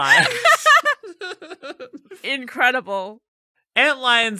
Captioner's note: laughing